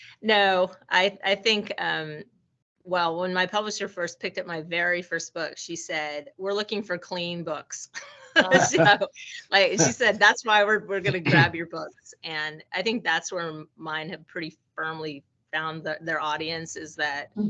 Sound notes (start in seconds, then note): 8.4 laughing